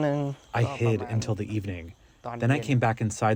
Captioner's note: through translator